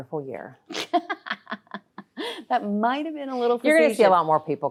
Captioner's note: laughing